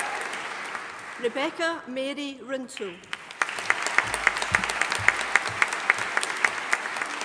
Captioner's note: audience applauding